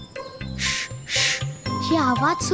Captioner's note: shushing